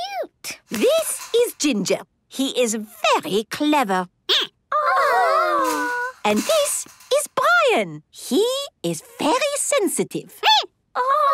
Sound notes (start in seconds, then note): 3.8 squeaking; 9.9 squeaking